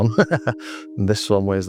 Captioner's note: laughing